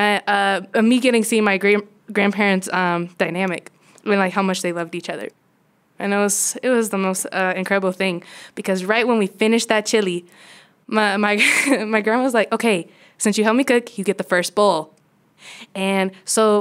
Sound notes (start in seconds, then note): 11.4 laughter